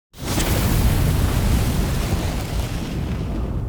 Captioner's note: flame whooshing